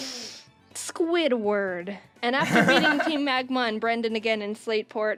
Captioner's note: laughs